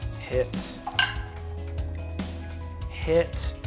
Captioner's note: die rolls